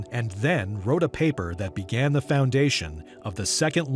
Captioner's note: none